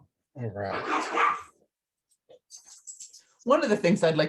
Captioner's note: dog barking